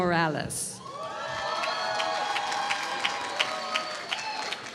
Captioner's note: applause